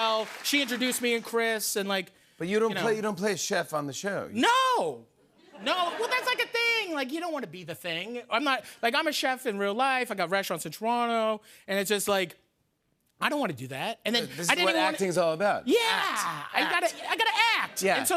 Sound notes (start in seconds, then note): 5.4 laughter